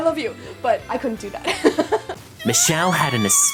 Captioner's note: laughs